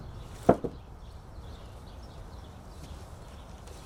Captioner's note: wood thuds